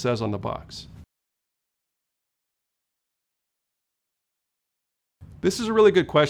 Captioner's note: no audio